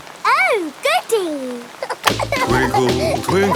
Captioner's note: giggling